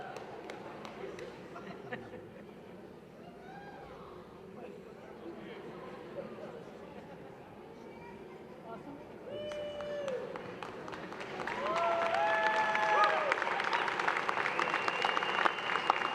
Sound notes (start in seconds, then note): 1.5 laughter; 9.4 applause